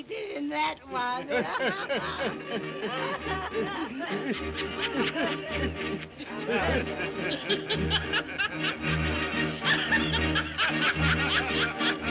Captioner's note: all laughing